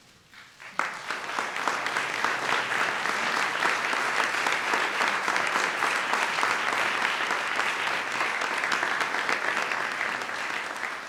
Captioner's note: applause